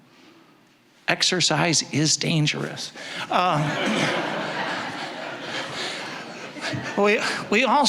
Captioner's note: audience laughing